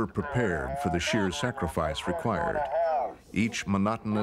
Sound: background yelling

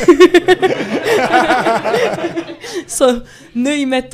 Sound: laughing intesifies

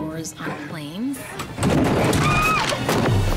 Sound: screams

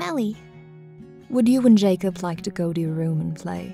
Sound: voiceover

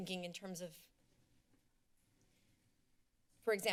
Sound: silence

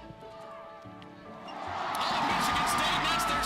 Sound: crowd cheers

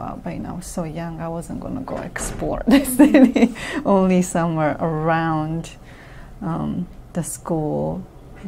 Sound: laughs

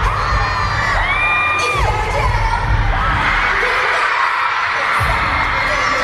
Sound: screaming and singing

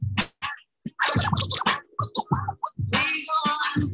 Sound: record scratching

